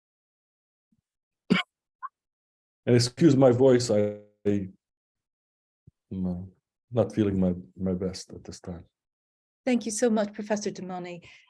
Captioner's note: coughs